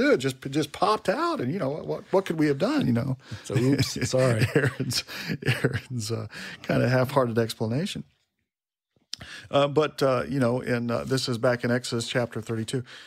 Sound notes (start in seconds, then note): 3.3 laughs